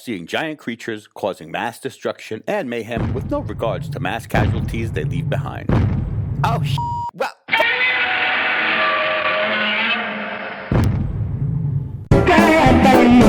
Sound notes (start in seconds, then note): 3.0 foot stomping; 4.9 theater light clattering; 6.7 beep; 7.5 Godzilla roaring; 8.7 foot stomping; 9.7 upbeat jazz music